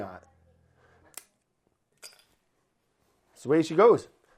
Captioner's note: cracks pepper